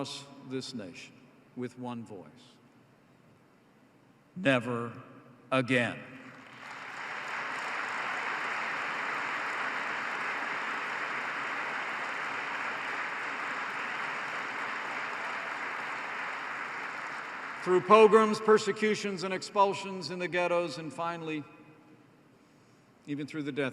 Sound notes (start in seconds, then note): 6.1 applause